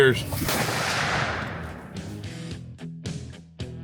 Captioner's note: rifle bangs